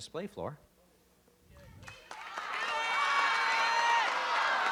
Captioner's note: audience yelling